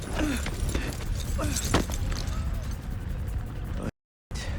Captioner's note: Murphy grunting